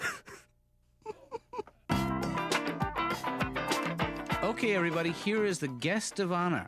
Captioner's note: tittering